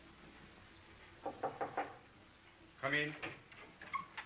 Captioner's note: knocking at the door